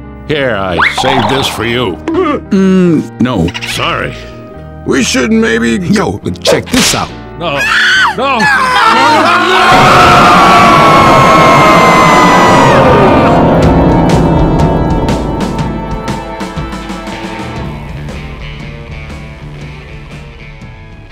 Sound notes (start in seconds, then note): 7.5 all screaming; 7.6 Zoey screams; 8.4 Louis laughing; 10.7 all screaming